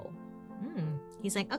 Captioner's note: humming with satisfaction